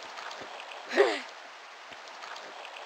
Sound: grumble

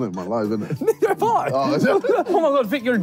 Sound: laughing

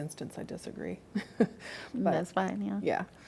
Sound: laughter

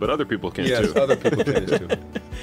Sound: laughter

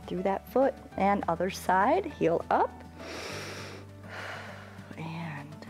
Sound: inhales and exhales

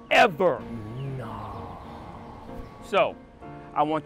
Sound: son gasps

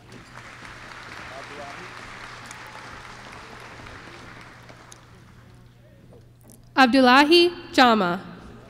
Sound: applause

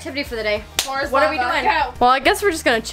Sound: claps

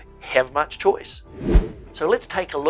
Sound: air whooshing

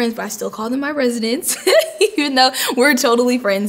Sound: laughing

